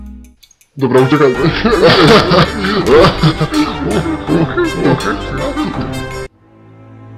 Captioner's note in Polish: śmiech